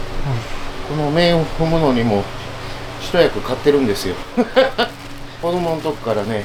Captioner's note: laugh